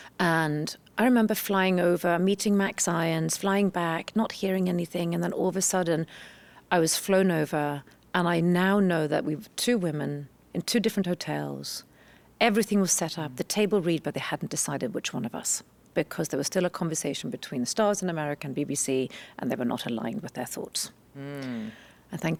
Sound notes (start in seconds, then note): none